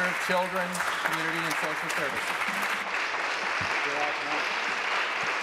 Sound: applause

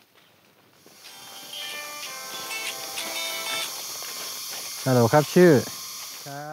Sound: phone ringing; speaking foreign language on telephone

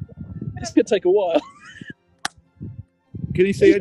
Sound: laughing and clapping

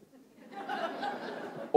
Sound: laughter

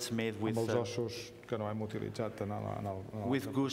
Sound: speaking catalan

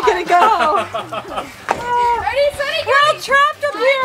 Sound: laughing

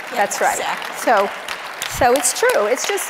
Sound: audience applauds

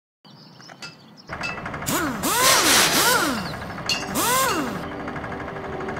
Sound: tools clanking and whirring

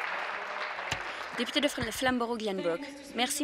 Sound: applause

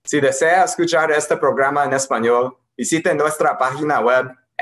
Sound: speaking in foreign language

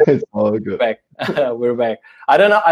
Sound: chuckles

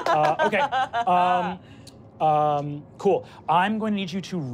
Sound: laughing

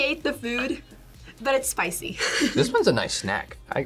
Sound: laughs

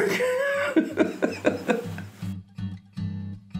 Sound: laughs; soft music

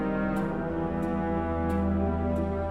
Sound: none

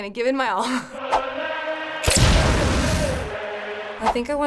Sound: explosion

